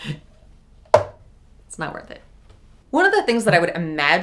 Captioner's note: container thuds